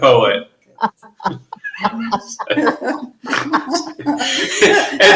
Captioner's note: everyone laughing